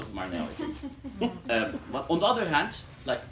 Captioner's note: laughter